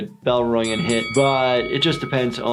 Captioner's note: bell rings